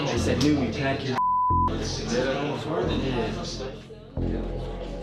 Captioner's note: beep